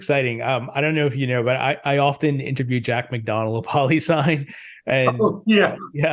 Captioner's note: chuckles